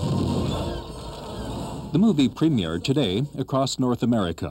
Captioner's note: laser fire